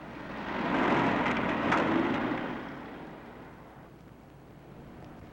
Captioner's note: car engine revving